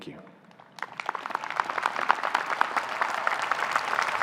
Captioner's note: applause